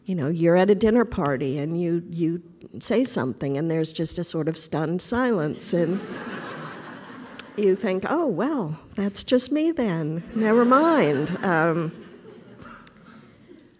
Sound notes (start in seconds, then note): 5.5 audience laughter; 10.0 audience laughter